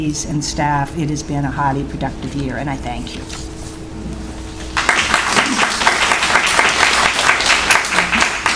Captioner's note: applause